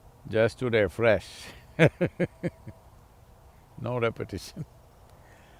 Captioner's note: laughs